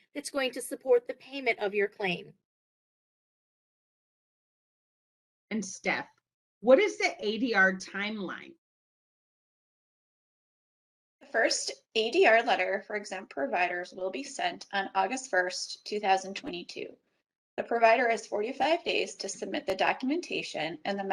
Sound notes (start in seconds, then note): 3.3 silence